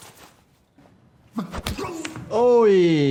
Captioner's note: fist thuds; man cries out